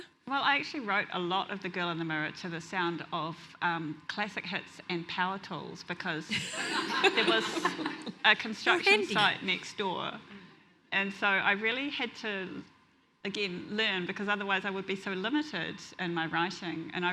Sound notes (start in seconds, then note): 6.3 audience laughs